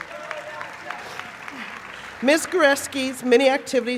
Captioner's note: applause